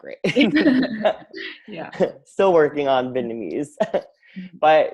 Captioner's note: all laugh